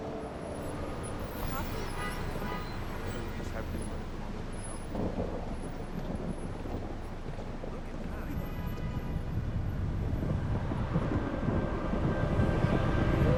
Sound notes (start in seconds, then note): 0.1 indistinct chatter; 3.5 thunder rumbles; 10.3 foreboding music